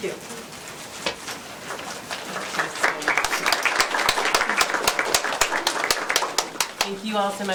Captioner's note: applause